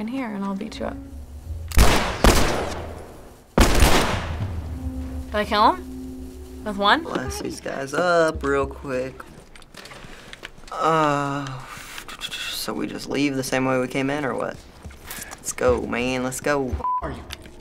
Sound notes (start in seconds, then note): 1.7 gunfire exchange; 10.9 tutting